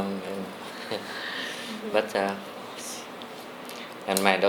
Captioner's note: chuckles